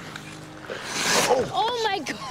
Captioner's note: skates swishing